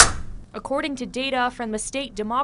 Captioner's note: NAT: golf club hitting ball